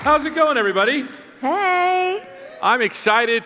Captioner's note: applause